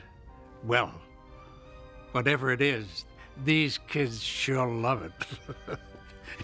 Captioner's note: laughing